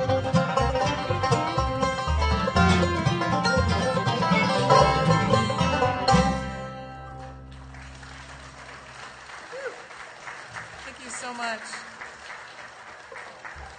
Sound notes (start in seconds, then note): 4.5 bluegrass music; 8.8 audience applauding